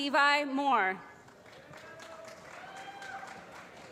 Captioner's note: applause